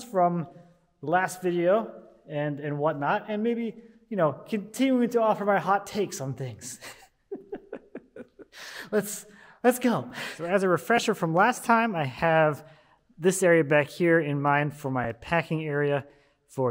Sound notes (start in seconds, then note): 6.6 laughing